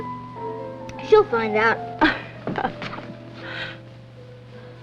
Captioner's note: laughs